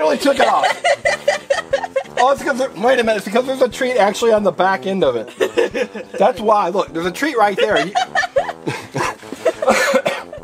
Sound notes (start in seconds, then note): 0.0 assistant laughs; 5.3 assistant laughs; 7.4 both laugh